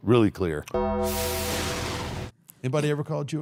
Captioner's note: logo dings; logo whooshing